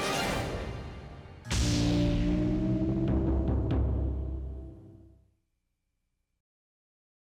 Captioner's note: smooth music; logo swooshing